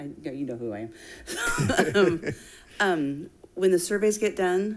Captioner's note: laughing